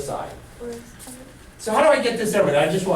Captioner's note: voiceover